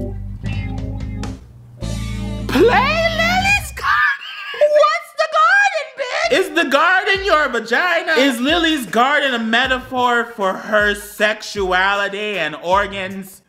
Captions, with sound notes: Play Lily's Garden (laughs). What's the garden, bitch? Is the garden your vagina? Is Lily's Garden a metaphor for her sexuality and organs?